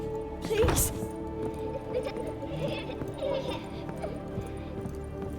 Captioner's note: child's laughter, distorted and faint